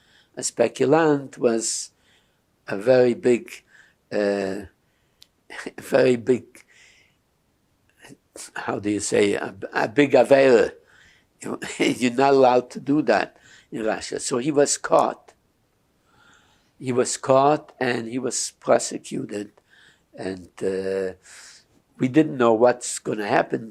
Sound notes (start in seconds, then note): 10.1 non-english